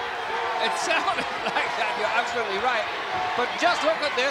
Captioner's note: laugh